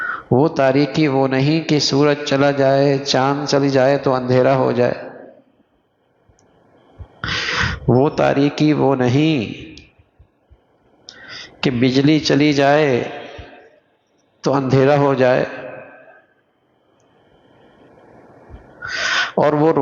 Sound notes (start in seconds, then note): 7.5 gasp